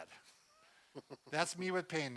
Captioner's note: chuckles